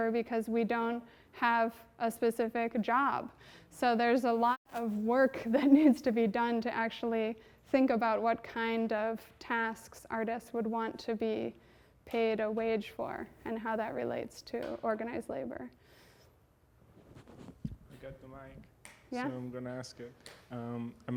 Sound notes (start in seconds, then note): 5.4 chuckles